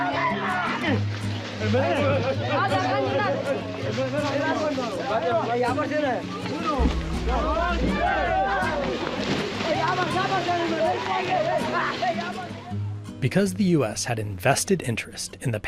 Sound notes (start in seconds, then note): 3.1 all speaking in foreign language; 9.1 water splashing